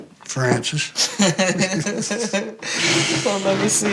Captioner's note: laughing